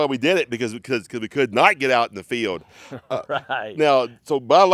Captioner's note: chuckles